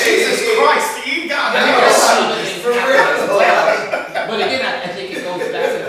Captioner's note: laughing